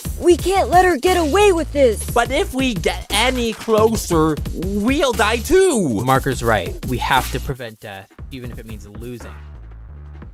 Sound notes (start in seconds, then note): none